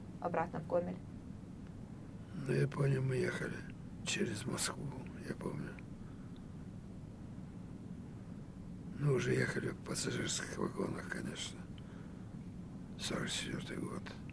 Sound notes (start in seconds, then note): none